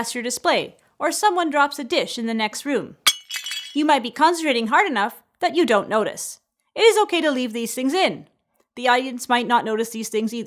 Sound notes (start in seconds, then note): 3.0 dish breaking